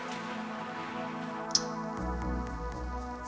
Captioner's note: shuts off tv